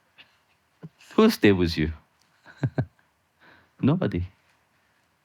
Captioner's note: laughing